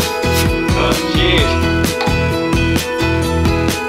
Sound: caps hissing; bottle clinking; upbeat music

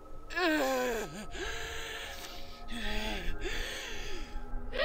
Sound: banshee sobbing

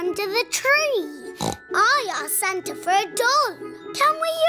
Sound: snorts

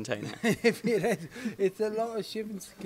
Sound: laughs

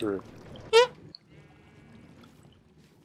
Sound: squeak

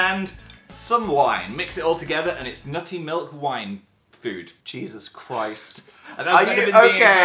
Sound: laughs

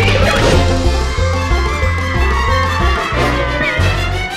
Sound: screaming; dramatic music playing

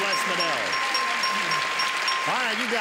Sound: applause

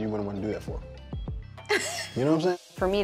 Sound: laughs

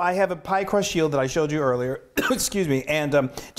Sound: coughs

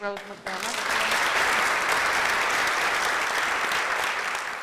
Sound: applause

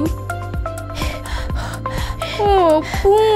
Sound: huffing and puffing

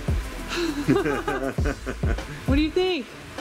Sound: laughs

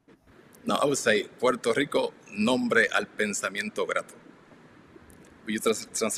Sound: speaks in foreign language

